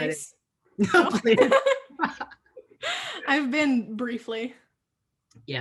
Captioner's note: laughing